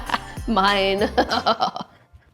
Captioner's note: chuckles